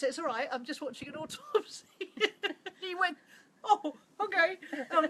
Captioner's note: laughs